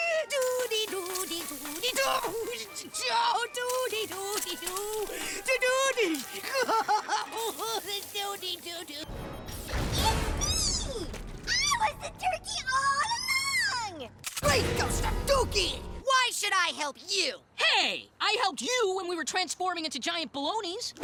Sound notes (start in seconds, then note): 2.2 cries